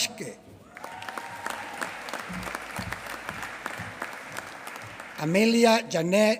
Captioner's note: applause